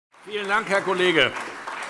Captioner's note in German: Beifall SPD